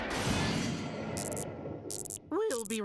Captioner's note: buzzing